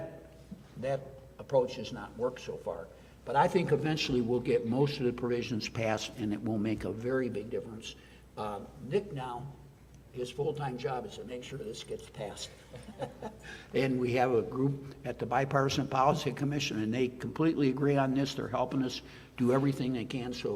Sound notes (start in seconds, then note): 12.6 laughs